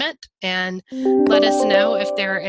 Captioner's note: chimes